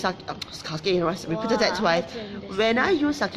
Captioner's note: speaking in foreign language